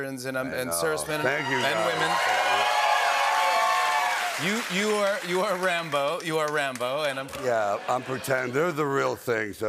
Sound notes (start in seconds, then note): 2.8 cheering and applause